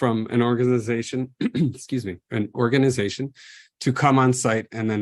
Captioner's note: clears throat